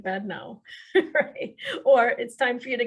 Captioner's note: laughs